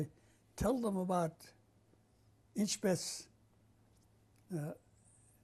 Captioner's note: non-english speech